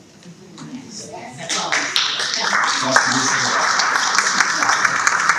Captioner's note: audience clapping